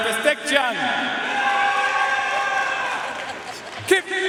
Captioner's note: audience cheering and applauding